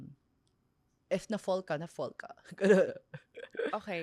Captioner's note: laughs